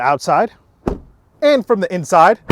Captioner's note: door shuts